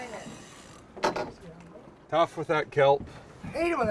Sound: reel spinning

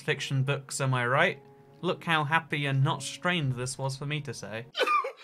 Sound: crying heavily

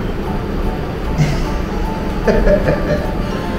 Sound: laughs

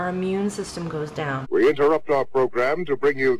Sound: voiceover

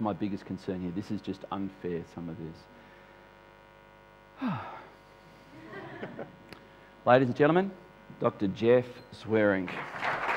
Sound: sighs

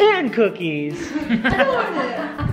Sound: laughter

